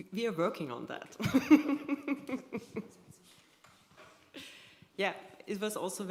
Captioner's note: laughter